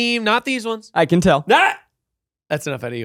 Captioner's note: shouts